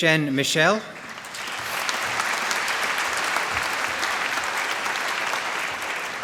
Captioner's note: applause